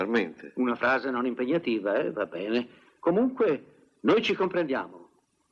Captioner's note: imitates English accent